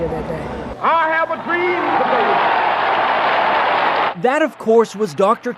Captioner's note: crowd cheers